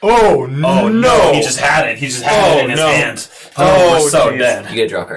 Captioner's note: lamenting